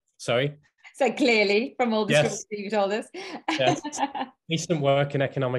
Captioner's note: laughing